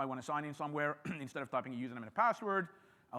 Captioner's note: clears throat